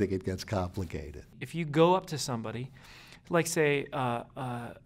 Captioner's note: voiceover